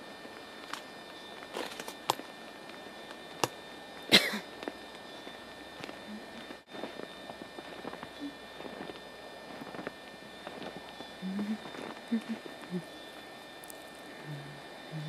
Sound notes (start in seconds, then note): 4.1 cough; 5.5 humming